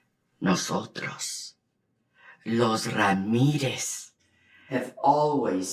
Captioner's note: Spanish